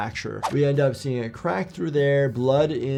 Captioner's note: audio whooshes